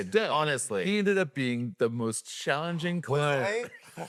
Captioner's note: laughs